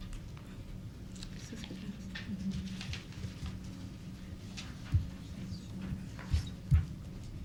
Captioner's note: members and attendees speaking and questioning